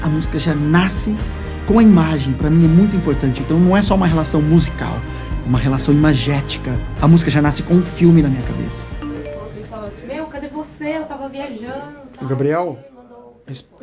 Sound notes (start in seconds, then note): 9.0 cell phone ringing